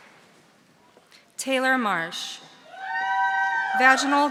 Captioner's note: audience cheering